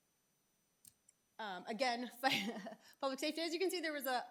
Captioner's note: laughing